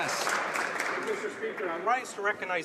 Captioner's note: some Applause